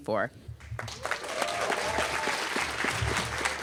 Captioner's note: applause